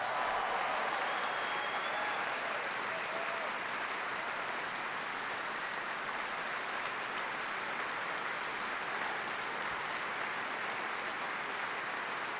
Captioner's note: applause